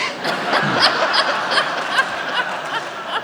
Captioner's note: laughing